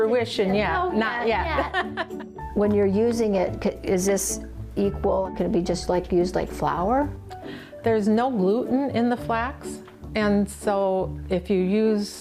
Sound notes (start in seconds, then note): 1.5 laughs